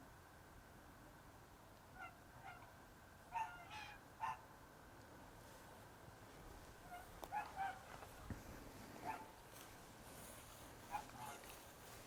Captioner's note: geese noises in the background